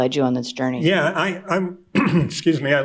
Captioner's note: clears throat